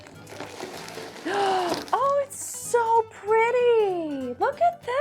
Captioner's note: inhaling sharply